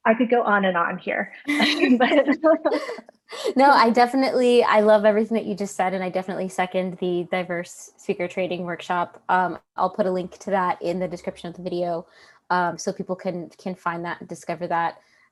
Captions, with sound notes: I could go on and on here. (laughter) - No, I definitely, I love everything that you just said, and I definitely second the Diverse Speaker trading workshop. I'll put a link to that in the description of the video. So people can find that, discover that,